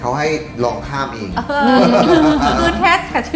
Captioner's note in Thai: หัวเราะ